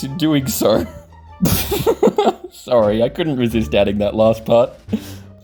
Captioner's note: chuckles